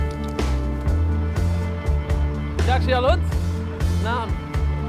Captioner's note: speaking Arabic